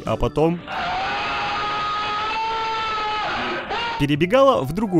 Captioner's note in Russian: Крик